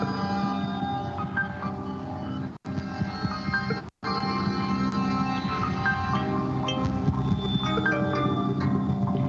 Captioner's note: beeping